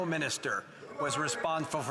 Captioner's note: speaking French